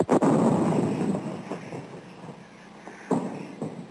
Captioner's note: guns firing